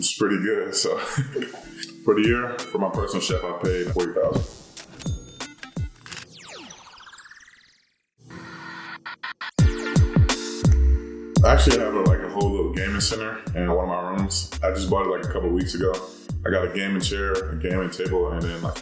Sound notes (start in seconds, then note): 0.9 laughing; 4.8 register dings; 6.0 camera lens clicking; 6.2 electricity warbles; 9.6 romantic hip-hop music